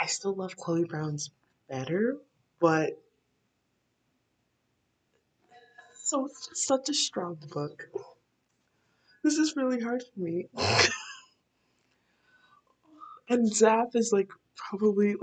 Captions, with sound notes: I still love Chloe Brown better but Such a strong book This is really hard for me *laughing* And Zaf is like probably